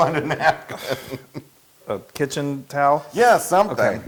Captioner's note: laugh